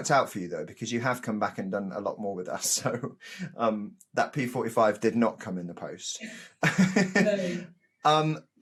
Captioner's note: both laugh